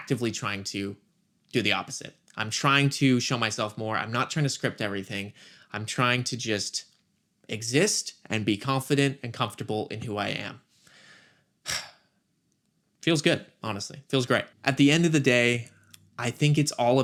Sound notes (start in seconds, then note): 11.6 sigh